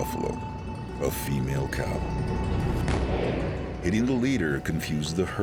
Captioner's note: fires rifle